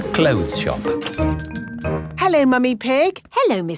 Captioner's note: doorbell chiming